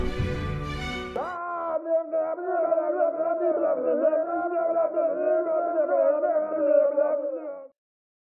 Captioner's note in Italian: urla e insulti